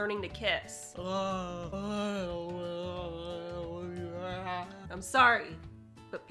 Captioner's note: groaning noises